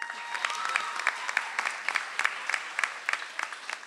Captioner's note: audience applauds